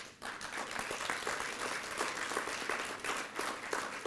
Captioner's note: applause